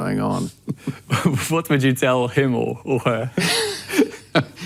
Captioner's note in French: des rires; les deux rient; rires